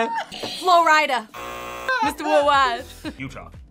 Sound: laughs; buzzer; buzzer rings

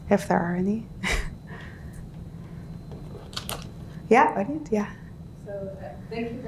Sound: chuckles

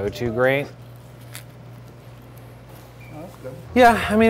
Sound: crunching

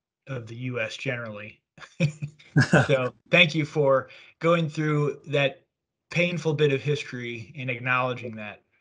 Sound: chuckles

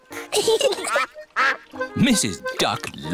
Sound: both giggling

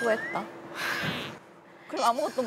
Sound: tears

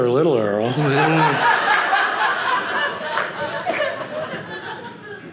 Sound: audience laughing

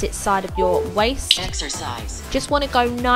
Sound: machine beeping

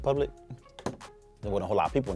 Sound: glass clinks

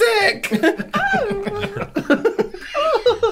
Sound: fake Crying

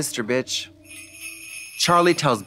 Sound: sleigh bells jingling

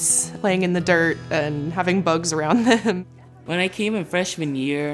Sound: chuckles

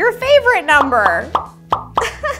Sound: bubbles pop; laughs

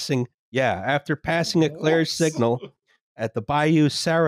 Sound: chuckles

